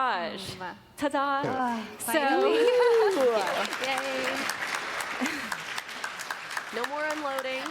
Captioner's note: applause